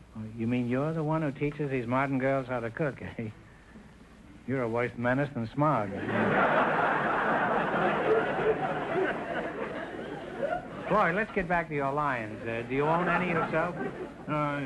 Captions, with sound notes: - You mean you're the one who teaches these modern girls how to cook, eh? You're a worse menace than smog. (audience laughter) Floyd, let's get back to your lions. Do you own any yourself?